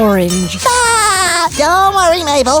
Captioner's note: laughing